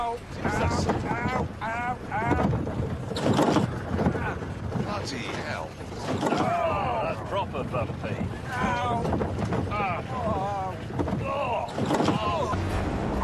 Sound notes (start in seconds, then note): 9.6 all three groaning